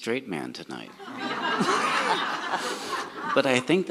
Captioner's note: audience laughs